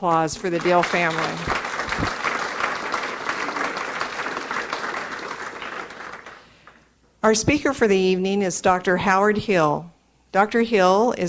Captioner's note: audience applauds